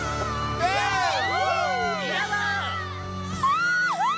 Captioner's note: cheering